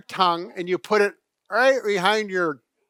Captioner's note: muffles voice with finger